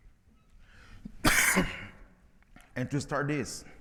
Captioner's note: presenter coughs